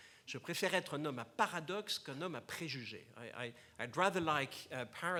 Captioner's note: foreign language